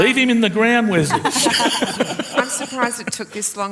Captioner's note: laughter